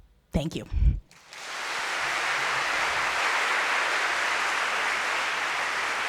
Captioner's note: applause